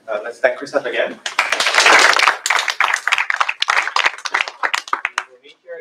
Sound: applause

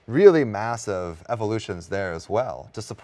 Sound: none

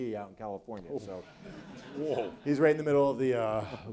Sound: audience laughs

